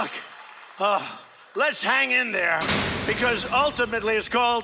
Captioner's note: bars slamming